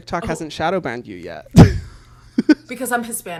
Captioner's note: laughs